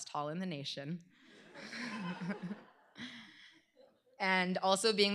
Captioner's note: laughter